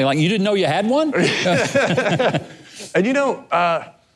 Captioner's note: both laughing